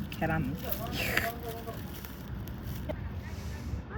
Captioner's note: slurp